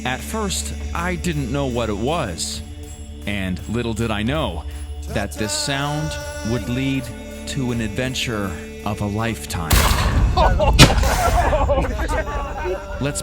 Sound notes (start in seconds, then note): 9.7 gun firing; 10.2 chuckling